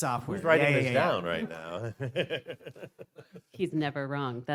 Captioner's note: laughs